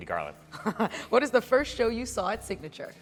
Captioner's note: laughs